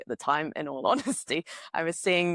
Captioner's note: laughs